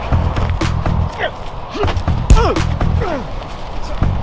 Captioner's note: man grunts